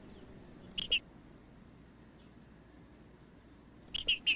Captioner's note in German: trinca ferro cantando; trinca ferro cantando